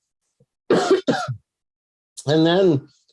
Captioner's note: coughs